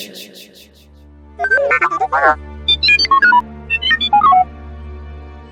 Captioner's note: horrified beeps